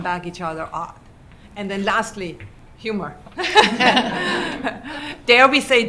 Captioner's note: laughter